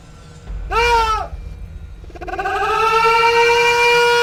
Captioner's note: sound of screaming